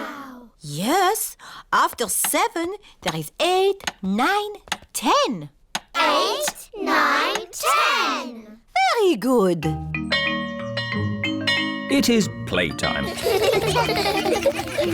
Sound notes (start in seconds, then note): 9.8 bell chimes; 13.1 all laugh